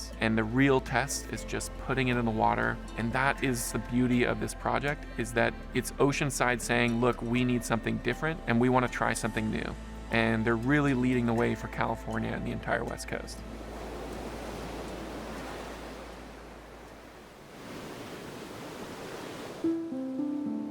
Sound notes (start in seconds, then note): 13.4 waves crashing; 19.6 bright wistful music